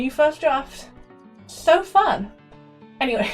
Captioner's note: sarcasm